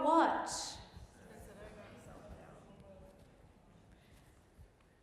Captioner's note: group murmuring